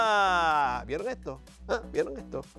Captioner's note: laugh